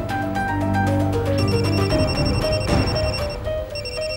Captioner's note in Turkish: Telefon çalıyor